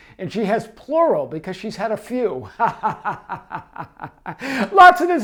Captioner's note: laughs